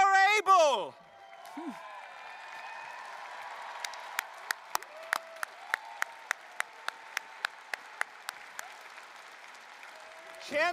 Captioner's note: applause, cheering